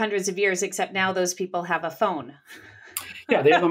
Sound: laughs

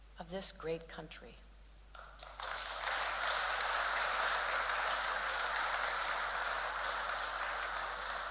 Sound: applause

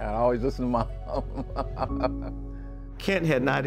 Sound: laughs

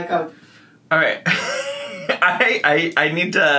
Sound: laughs

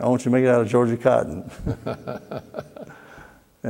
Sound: laughter

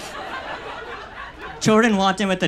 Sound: audience laughs

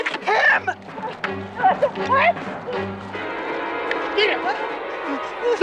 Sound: Skeeter gasping; suspenseful music

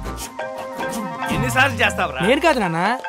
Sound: phone buzzing

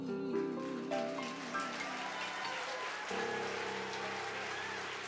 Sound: audience applauds

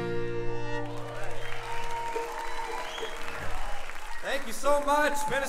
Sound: audience cheering and applauding

